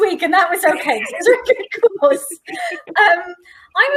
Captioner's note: laughing